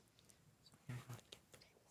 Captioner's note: team whispers